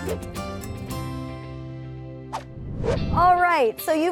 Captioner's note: whoosh